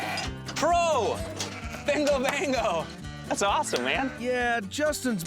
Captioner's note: high-five clap